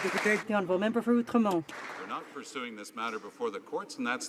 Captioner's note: some Applause